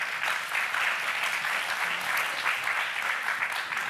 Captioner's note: applauding